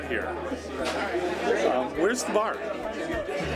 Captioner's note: A group of people chattering loudly inside a house